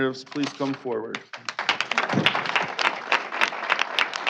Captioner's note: applause